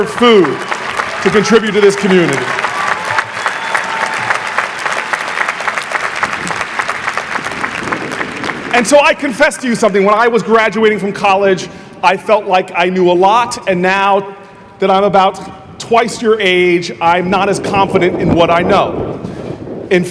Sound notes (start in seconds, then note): 2.5 audience applauding